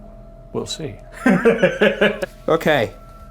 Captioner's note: Ryan laughs